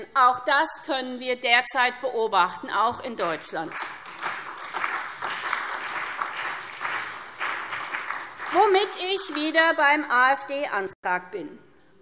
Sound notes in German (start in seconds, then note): 3.3 Beifall SPD und vereinzelt BÜNDNIS 90/DIE GRÜNEN